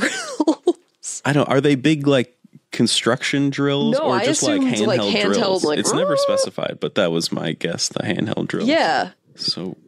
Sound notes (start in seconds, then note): 5.3 makes whirring noise